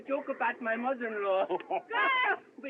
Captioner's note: laughs